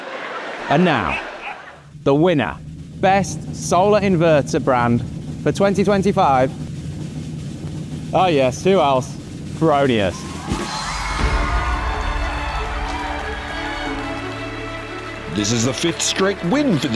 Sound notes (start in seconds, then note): 9.8 audience cheering; 11.9 bright music